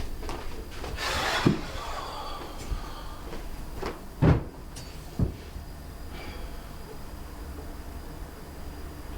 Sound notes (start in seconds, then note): 0.1 sighs; 2.4 thump; 6.1 sighs